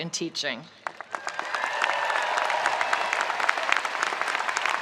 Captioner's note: spectators applauding